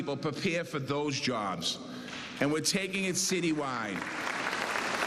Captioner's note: cheers and applause